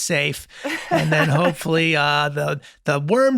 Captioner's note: laughing